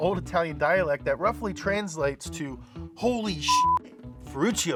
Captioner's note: beep